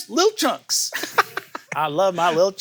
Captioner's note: laughs